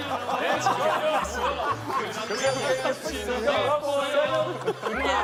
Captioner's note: laughing